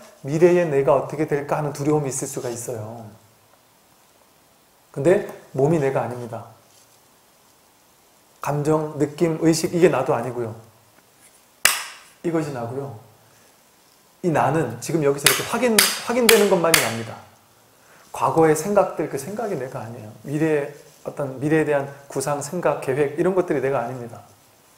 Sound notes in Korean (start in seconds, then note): 11.6 대나무 부딪치는 소리; 15.2 대나무소리